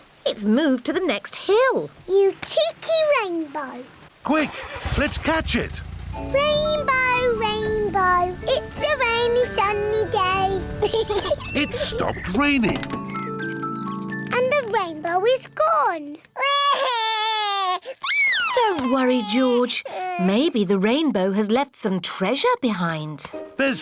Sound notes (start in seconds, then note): 10.8 peppa pig laughs; 16.4 cries